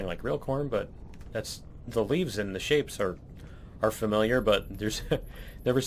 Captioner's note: laughs